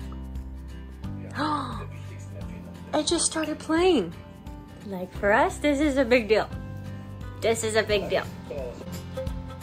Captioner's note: gasp